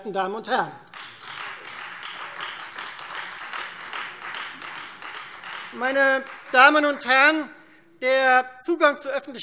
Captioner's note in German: Beifall Freie Demokraten